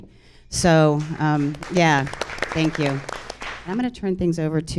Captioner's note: audience applauds